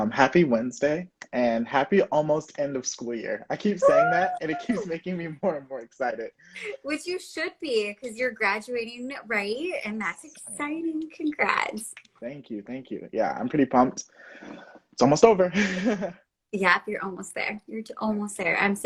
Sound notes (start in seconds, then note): 15.2 chuckles